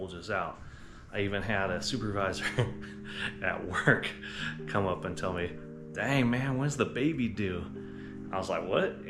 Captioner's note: laughs